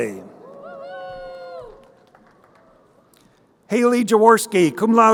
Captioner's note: crowd cheering